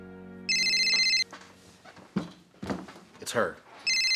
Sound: phone rings

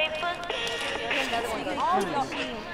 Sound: arguing

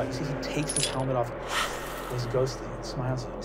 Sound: breathes

